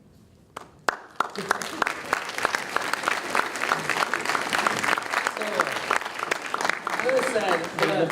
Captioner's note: applause